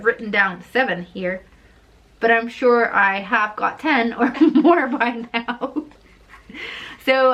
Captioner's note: laughs